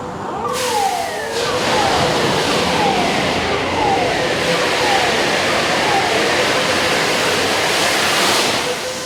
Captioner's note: furnace erupts